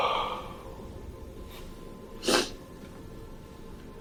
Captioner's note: sniffs